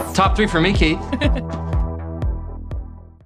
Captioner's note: chuckles